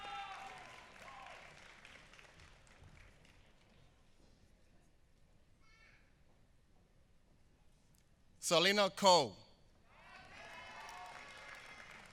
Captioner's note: applause